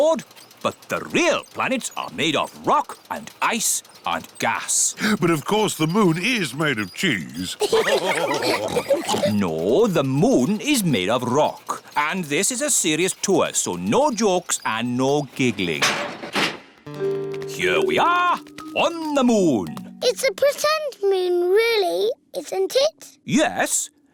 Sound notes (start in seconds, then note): 7.5 all laugh